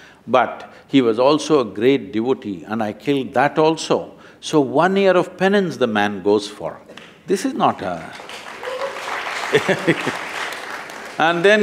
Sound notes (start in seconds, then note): 7.7 applause; 9.4 laughs